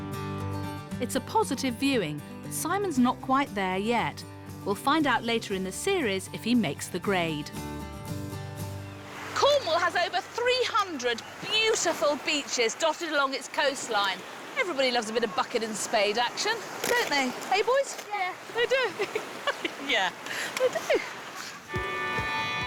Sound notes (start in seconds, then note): 18.5 laughs